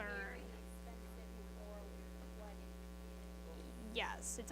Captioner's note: students chattering